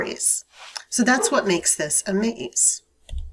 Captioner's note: murmurs